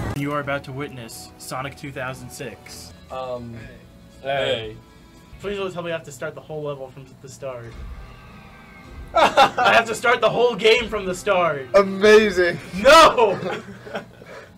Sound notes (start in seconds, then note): 9.1 laughs